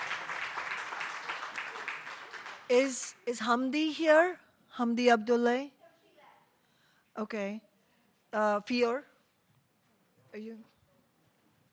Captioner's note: applause